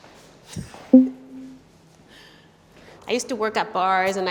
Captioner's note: poll result beeps